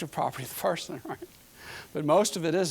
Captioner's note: chuckling